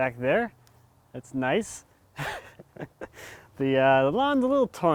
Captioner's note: laughs